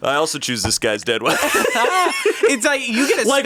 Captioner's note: all laughing